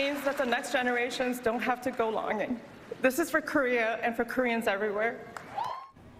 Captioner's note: applause